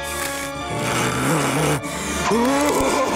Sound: growls; laughs maniacally

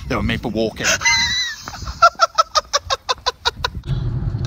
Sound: laughter

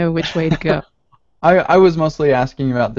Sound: chuckles

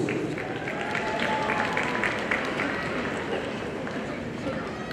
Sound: audience applauding

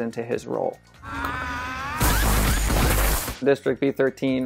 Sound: yelling

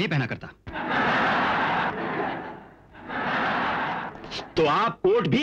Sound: laughs

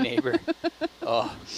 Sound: crew giggling

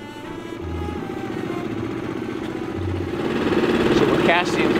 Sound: boat engine whirring

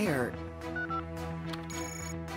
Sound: beeping; phone ringing

